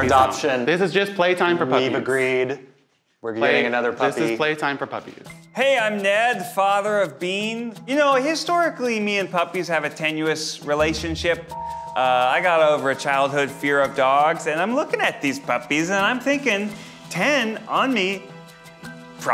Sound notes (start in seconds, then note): none